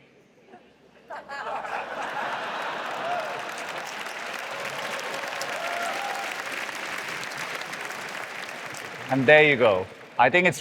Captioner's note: laughter; applause